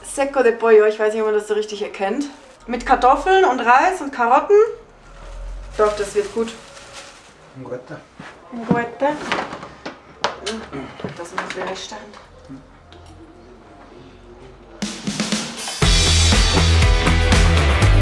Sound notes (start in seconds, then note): 7.2 in Swiss German